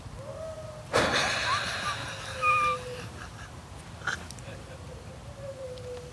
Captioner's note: howling; laughing